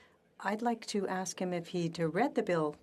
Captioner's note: speaking French